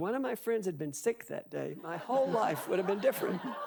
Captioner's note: audience laughing